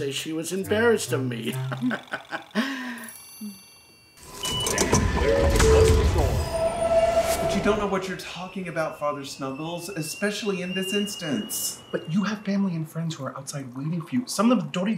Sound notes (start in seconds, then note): 1.4 laughs; 4.2 train doors whirring